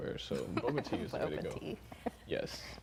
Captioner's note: laughing